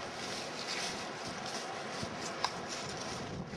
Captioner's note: rushing wind